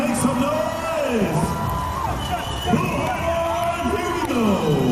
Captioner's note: audience cheering